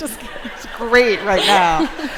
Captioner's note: laughter